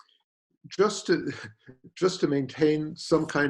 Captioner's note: chuckles